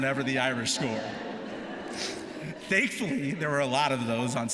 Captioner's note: laughter